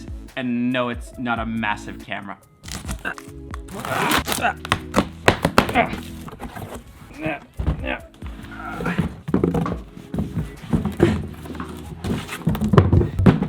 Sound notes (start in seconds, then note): 3.3 grunts repeatedly